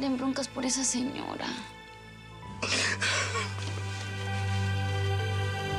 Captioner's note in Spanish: sollozos